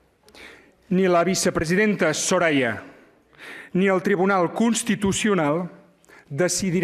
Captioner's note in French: espagnol